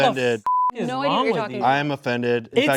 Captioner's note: beep